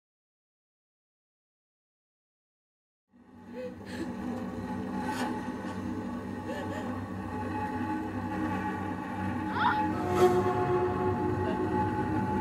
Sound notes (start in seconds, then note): 4.9 sinister music; 6.3 distant sobs